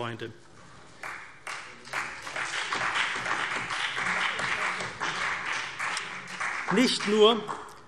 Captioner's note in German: Beifall CDU und BÜNDNIS 90/DIE GRÜNEN